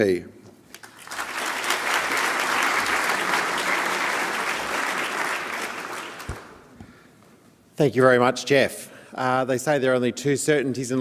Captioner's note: applause